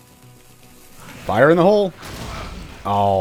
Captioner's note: kaboom